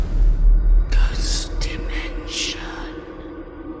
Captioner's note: creepy Voice